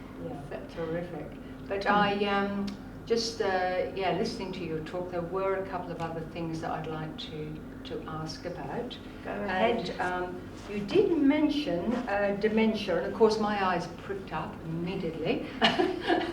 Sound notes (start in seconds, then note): 15.5 laughter